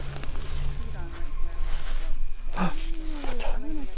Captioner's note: group chatters